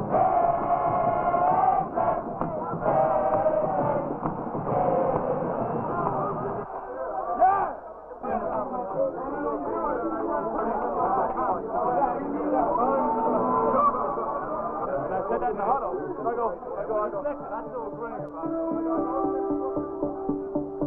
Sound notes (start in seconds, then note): 11.1 team celebrating